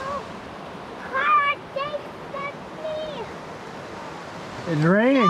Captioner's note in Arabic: يثرثر ويصرخ